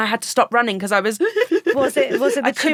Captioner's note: sobbing